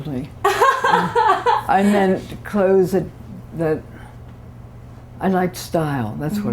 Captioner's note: laughter